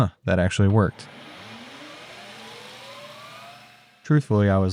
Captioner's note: machine whirring